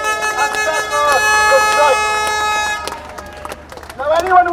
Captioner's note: applause